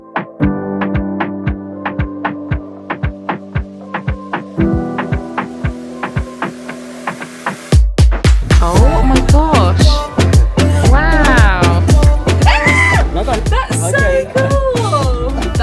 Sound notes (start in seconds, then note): 12.4 screaming